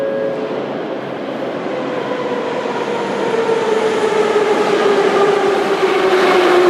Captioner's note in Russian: сигнал о прибытии поезда; прибытие поезда на станцию